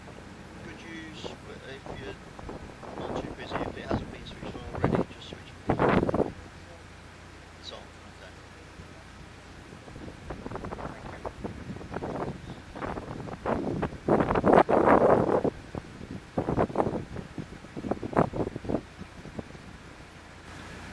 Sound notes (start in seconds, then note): 5.5 gust of wind - sound; 13.4 gusting wind across the microphone on the camera